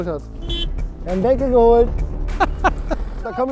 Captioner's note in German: Hupen